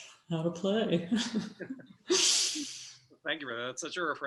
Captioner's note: laughing